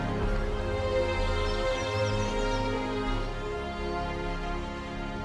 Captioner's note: birds chirping